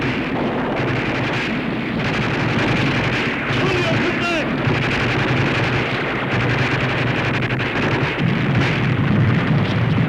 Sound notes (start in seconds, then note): 5.8 gunfire